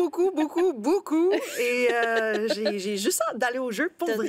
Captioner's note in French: rires